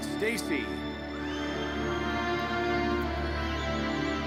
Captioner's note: audience cheers